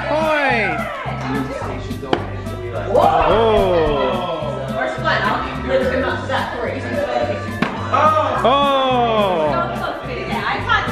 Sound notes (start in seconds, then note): 2.8 group groans; 8.3 group yells